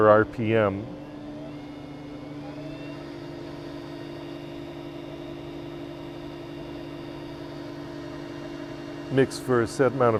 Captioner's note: drill Noise